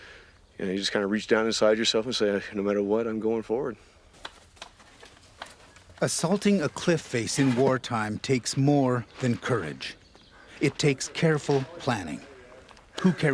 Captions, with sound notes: no matter what, I'm going forward. - [Voiceover] Assaulting a cliff face in war time takes more than courage. It takes careful planning. Who carries the water? The extra ammo?